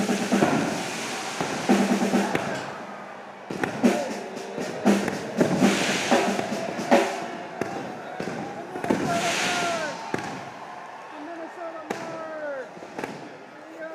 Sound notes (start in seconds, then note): 3.4 fireworks exploding; 12.1 cheers and applause